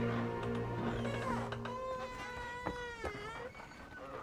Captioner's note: door creaking